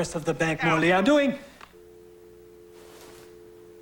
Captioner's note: hum of dial-tone; click of hang-up